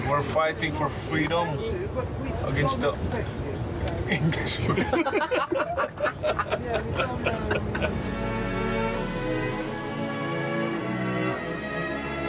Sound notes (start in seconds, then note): 4.6 Manny laughing; 7.4 soft orchestra music